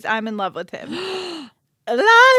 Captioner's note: gasps